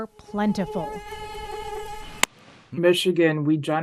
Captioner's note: mosquito buzzing